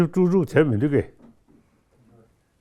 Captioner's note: speaks in Tibetan